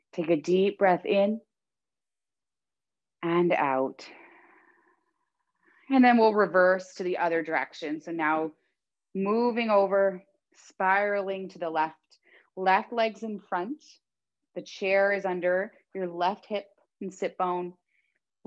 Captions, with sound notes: Take a deep breath in (inhaling deeply) and out (exhaling deeply). And then we'll reverse to the other direction. So now moving over spiraling to the left. Left leg's in front. The chair is under your left hip and sit bone.